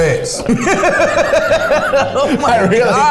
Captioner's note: laughing